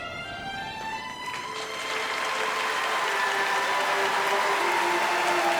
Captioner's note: cheers and applause